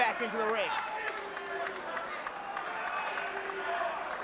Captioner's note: applause